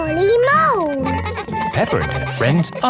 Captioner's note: giggling